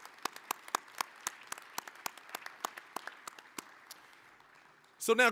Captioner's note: applause